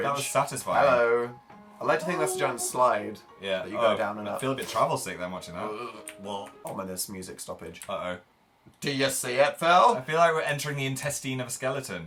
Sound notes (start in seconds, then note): 5.6 gagging noises